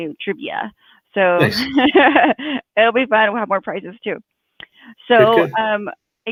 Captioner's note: laughs